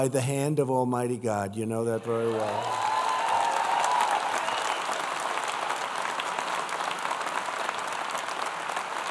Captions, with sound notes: the hand of Almighty God. You know that very well. (applause) Joining us today is Small Business